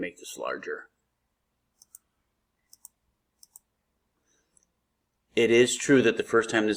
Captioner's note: mouse clicks